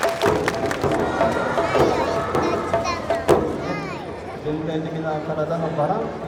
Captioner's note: speaking in foreign language